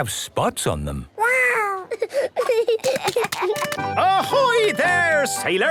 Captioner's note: giggling